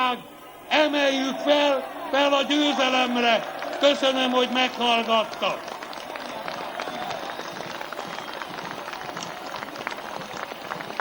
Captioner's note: applause